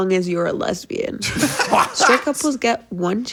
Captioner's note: all laughing